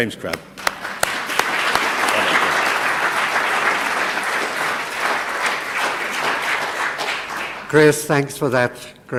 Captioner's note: applause